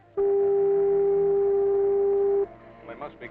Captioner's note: car beeping